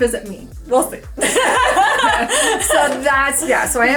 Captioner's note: laugh